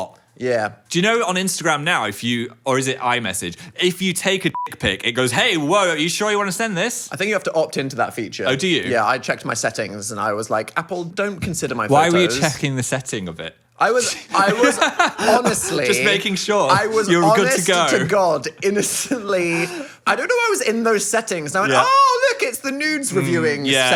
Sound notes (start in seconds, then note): 4.5 beep